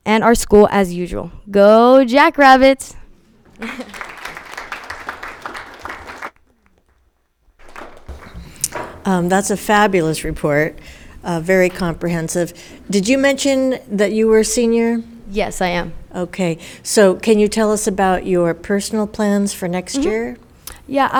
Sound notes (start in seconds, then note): 3.4 audience applauding